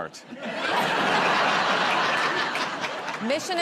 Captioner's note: laughter